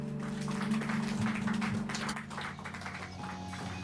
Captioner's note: clapping